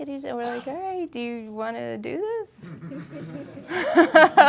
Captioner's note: laughing